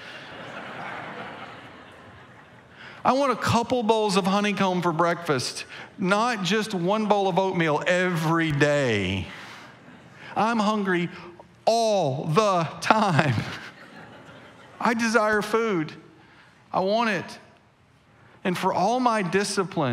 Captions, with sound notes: (congregation laughing) I want a couple bowls of honeycomb for breakfast, not just one bowl of oatmeal every day. (congregation laughing) I'm hungry all the time. (chuckles) I desire food, I want it, and for all my discipline,